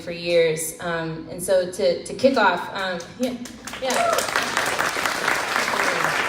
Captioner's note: crowd claps